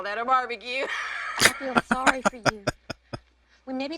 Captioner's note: laughing